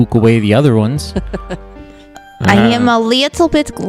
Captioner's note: laughs